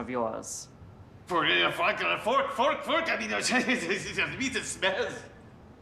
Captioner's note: uncle speaking gibberish